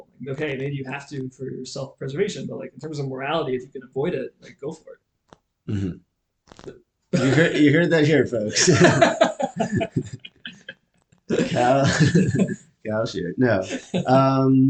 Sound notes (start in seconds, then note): 8.7 laughing